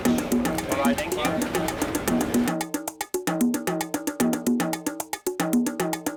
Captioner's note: people chatting; upbeat percussive music